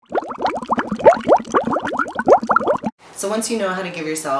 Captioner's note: water gurgling sound